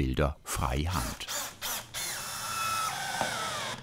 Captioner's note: drilling noise